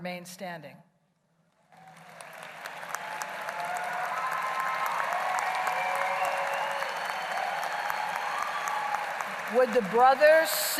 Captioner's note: applause